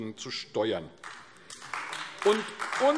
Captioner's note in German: Beifall AfD